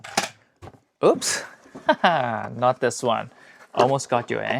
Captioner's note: laughter